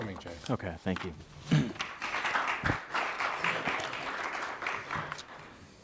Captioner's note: audience applauds